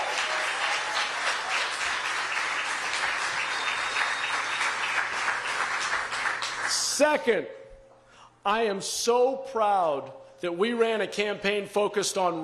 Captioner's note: applause